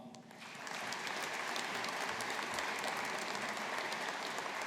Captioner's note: audience applauding